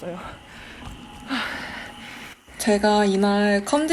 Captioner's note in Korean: 깊은 한숨